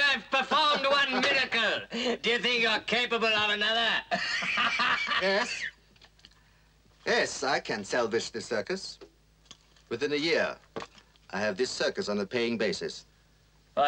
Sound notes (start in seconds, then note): 4.0 laughs